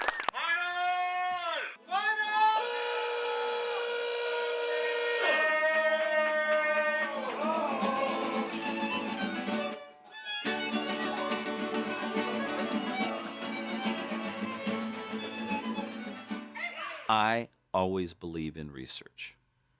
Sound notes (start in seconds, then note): 0.0 clapping; 2.2 yelling, buzzers blaring; 15.6 whooping